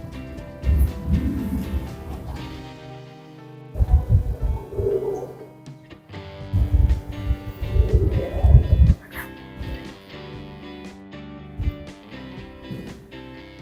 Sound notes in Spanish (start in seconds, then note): 2.3 carraspeo; 2.3 gemido